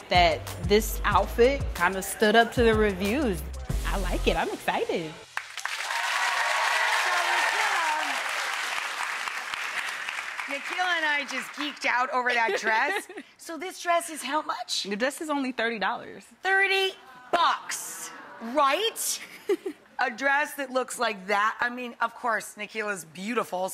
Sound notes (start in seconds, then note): 5.2 applause; 12.2 laughs